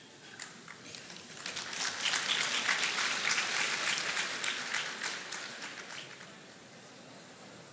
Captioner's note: audience laughter